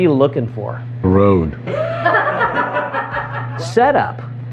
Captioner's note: laughter